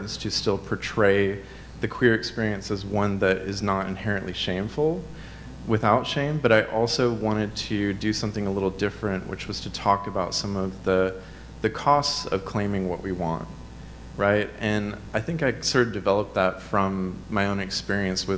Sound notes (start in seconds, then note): none